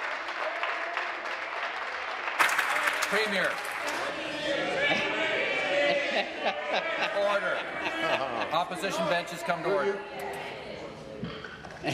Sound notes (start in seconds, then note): 4.3 some Applause